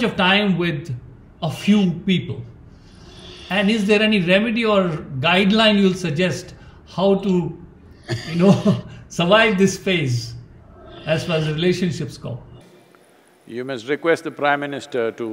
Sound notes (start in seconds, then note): 8.0 both Laugh